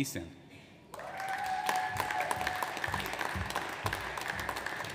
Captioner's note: audience applauds